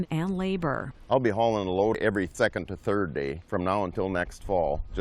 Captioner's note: voice-over